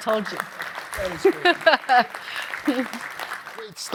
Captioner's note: applause